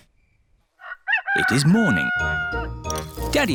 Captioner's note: rooster crows